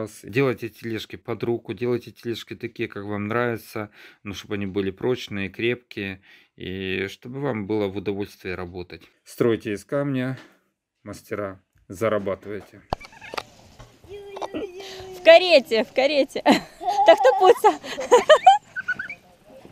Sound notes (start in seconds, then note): 16.4 child laughs